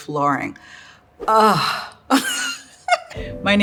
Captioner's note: giggles